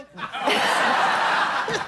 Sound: laughter

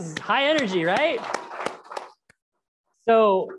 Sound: crowd applauds

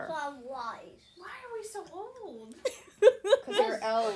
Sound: laughter

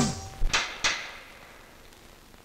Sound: stick tapping

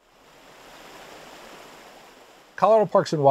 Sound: water sloshing

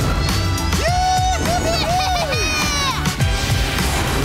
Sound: cheering

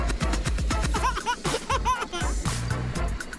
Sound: laughing

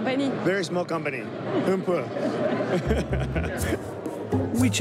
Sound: speaking in foreign language

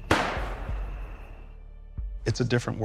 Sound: gunshot

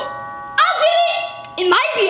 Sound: doorbell Rings

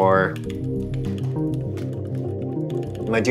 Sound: keyboard clacking

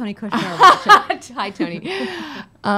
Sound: laughs

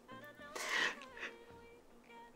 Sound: inhale

